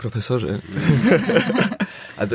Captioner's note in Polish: śmiech